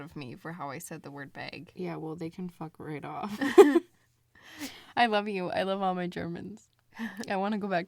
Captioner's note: both laugh